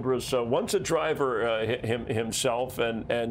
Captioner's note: laughter